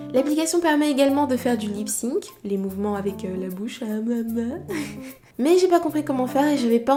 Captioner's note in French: rires